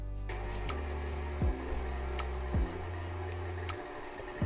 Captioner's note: blender whizzing